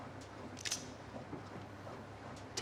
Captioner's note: gun cocking